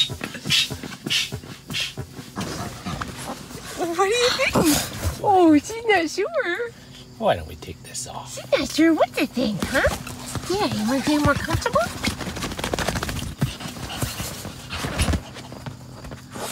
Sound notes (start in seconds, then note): 2.2 playful growl